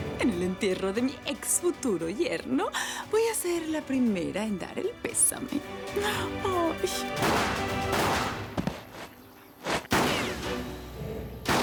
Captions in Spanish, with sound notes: >>EN EL ENTIERRO DE MI EXFUTURO YERNO, VOY A SER LA PRIMERA EN DAR EL PÉSAME. ¡AY...! [Disparos]